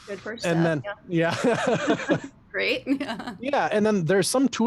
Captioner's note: laughs